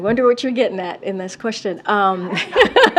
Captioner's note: laughs; laughter